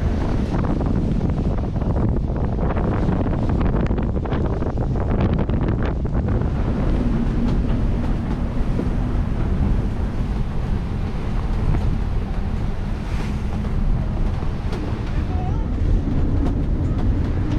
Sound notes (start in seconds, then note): 0.9 waves crashing; 0.9 wind blowing